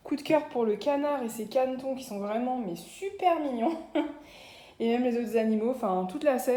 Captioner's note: laughs